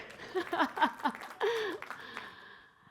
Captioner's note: applause